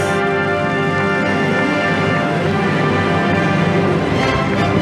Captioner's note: audience applauding